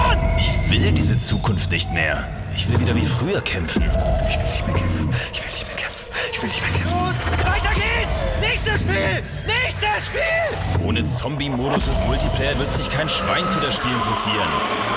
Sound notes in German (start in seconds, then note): 4.3 Patient #1 flüstert